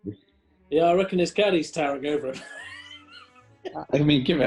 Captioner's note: laughing